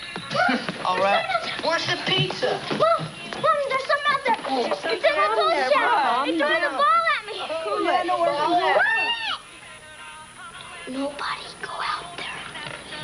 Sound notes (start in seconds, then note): 7.8 group chattering frantically